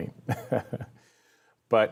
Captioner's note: chuckles